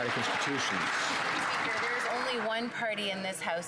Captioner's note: some Applause